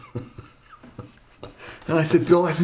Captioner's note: chuckles